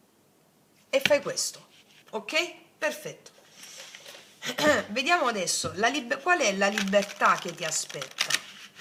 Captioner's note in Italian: schiarire la voce